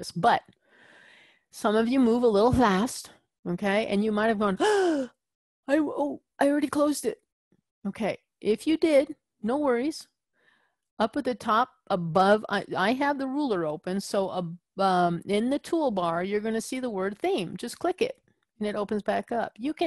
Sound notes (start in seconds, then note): 4.6 gasp